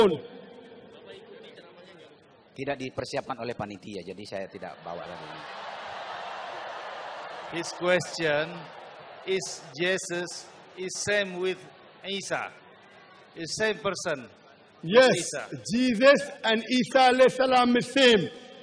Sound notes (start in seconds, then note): 5.4 applause